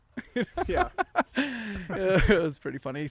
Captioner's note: laughing